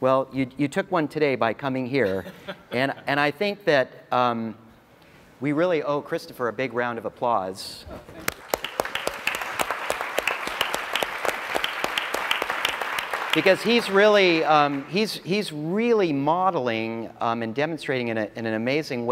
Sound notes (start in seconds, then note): 2.1 laugh; 11.6 applause